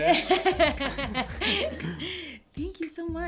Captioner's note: laughter